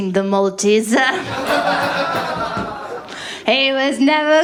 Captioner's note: laughter